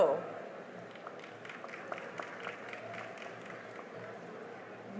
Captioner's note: cheering and applause